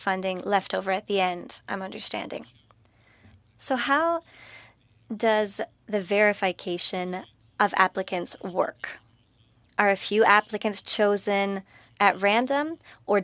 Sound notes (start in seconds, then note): 3.5 speaking French